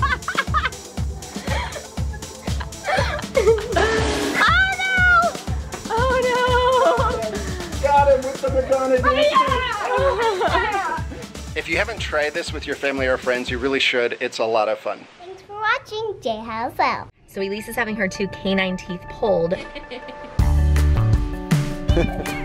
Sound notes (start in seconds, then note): 0.0 laughing; 8.5 yelling; 8.8 laughing; 19.7 playful music